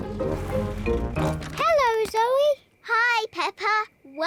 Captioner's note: oinks